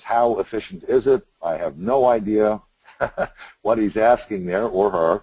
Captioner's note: laughs